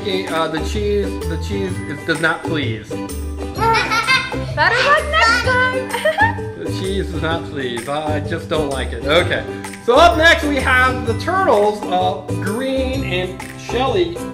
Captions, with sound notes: Sorry Mickey, the cheese does not please. (Assistant laughs) - Better luck next time! - The cheese does not please. I just don't like it. So up next we have the Turtle's green and shelly,